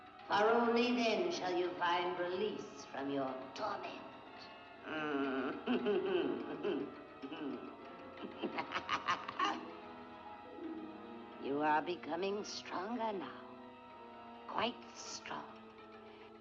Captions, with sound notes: For only then shall you find release from your torment. (laughing) (cackling) You are becoming stronger now...quite strong.